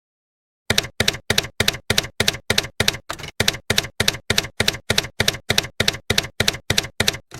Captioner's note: typewriter keys clacking